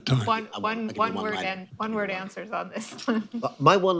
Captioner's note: laughs